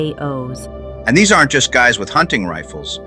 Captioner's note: excited